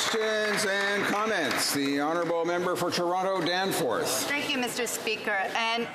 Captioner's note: some Applause